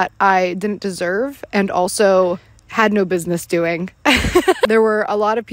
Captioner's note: laughs